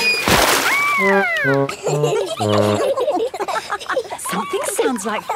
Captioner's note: all laughing